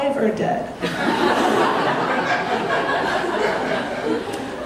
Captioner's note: audience laughing